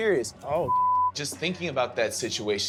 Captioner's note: beep